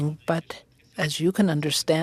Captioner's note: speaking French